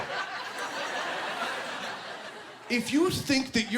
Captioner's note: laughing